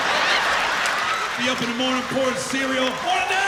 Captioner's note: laughter